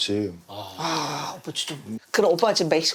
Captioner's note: sigh